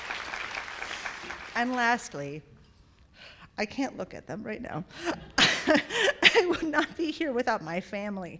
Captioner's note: applause